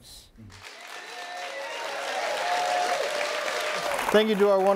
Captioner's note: audience cheering and applauding